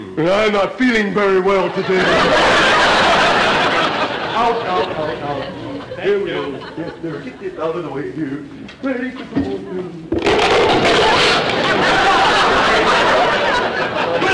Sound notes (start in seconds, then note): 1.5 audience laughter; 10.2 loud crunching sound; 10.3 audience laughter